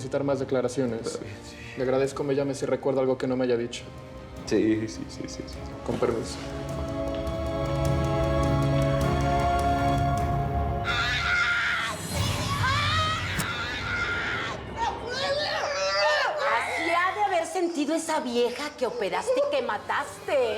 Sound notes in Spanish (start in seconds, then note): 13.0 gritos